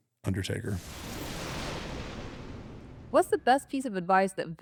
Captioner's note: thunder rumbles